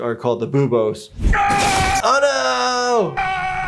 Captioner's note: yelling